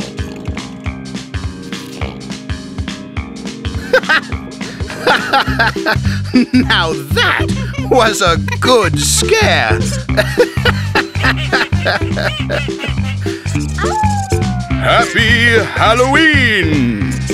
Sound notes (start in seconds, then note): 3.6 laughing; 9.7 all laughing; 13.6 Pocoyo howls; 14.5 narrator, spooky voice